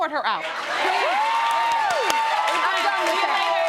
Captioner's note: audience cheering